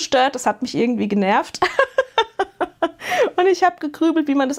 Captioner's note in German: gelächter